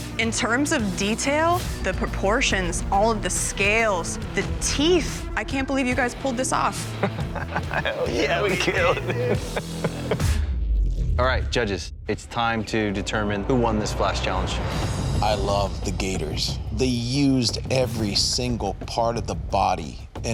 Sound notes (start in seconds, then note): 6.8 laughing; 14.7 dramatic music